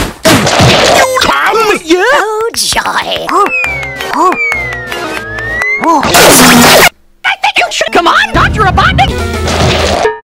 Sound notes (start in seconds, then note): 2.2 scattered clapping